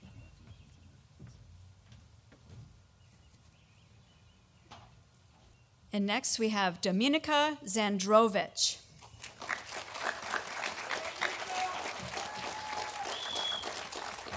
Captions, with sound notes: And next we have Dominika Zandrowicz. (audience applauding)